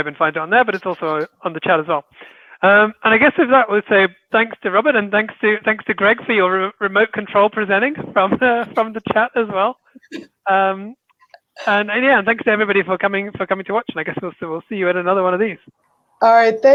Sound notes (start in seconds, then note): 10.0 chuckling